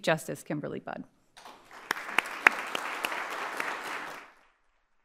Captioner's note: attendees applauding